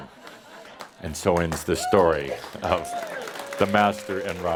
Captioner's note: laughter; audience applause